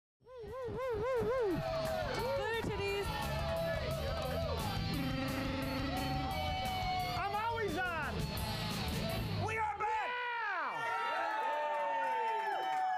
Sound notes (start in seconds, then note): 0.1 electronic club music; 7.8 audience cheering; 7.8 upbeat rock music; 12.4 audience cheering